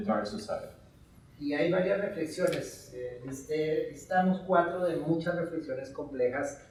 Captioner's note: speaking in Spanish